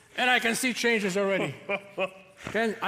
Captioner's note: Santa laughs festively